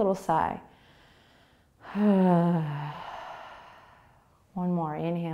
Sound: sighing exhale

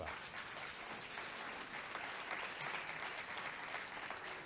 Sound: audience clapping

